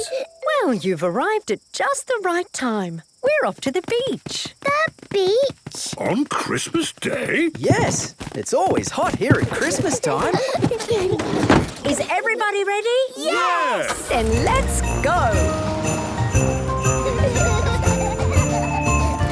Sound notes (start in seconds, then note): 9.2 kids giggling; 15.9 kids laughing